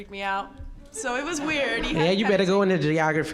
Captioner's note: audience laughing